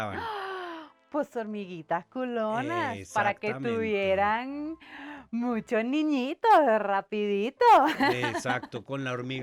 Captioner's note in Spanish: risas